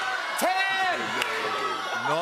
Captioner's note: audience shouting